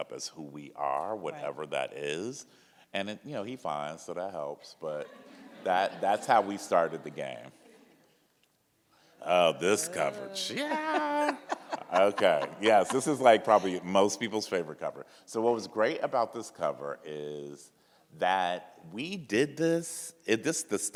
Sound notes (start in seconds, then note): 5.0 audienc laughs; 9.6 laughs